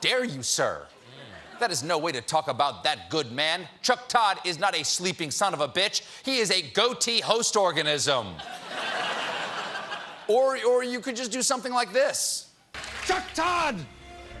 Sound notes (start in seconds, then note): 8.3 laughter